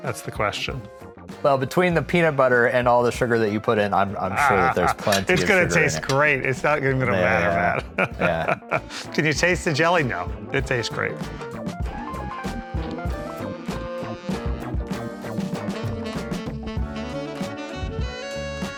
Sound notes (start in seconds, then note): 7.0 laughs; 11.7 groovy music continues